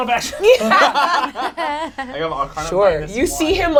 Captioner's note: all laugh